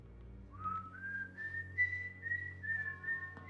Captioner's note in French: sifflement